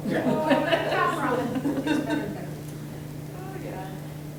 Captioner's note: everyone laughing